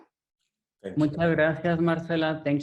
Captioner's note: speaking in foreign language